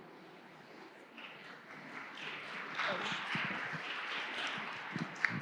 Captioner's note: audience clapping hands